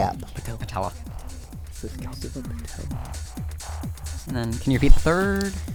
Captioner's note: whispering